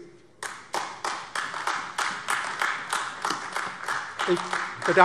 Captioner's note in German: Beifall AfD